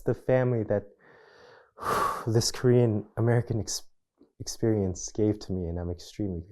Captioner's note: sighs